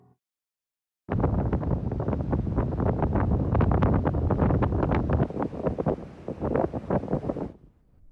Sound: wind blowing loudly

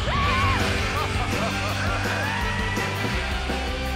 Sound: upbeat music; hollering

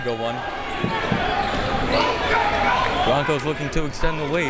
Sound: crowd members shouting

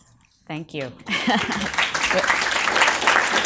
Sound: applause

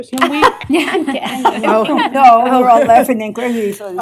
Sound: laughter

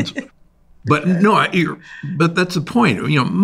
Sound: laughs

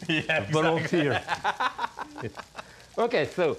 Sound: Ming laughs

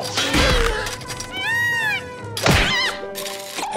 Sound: shrieking

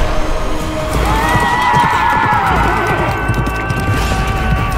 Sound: horses neighing

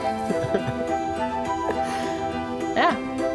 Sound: laughs

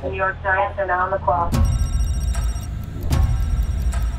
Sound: phone rings

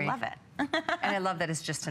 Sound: laughter

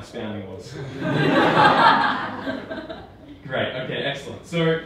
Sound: audience laughing

